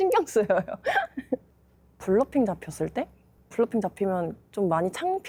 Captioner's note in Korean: 웃음